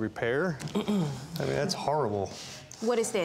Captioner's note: clears throat